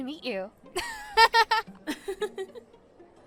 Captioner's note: chloe & sophie giggles